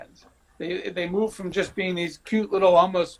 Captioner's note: laughing